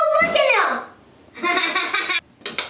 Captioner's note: Rosie laughing